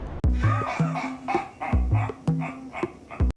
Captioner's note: Maniacal Klingon laughter